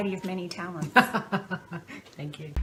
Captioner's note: laughter